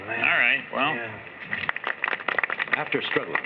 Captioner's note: applause